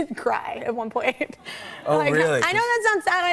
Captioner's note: audience aws